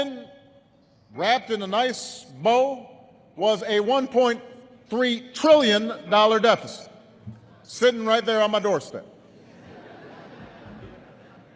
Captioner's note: laughter